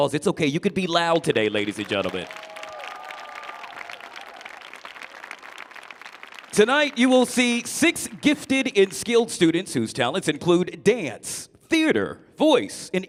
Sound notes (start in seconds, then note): 1.2 audience applauding; 1.3 audience cheering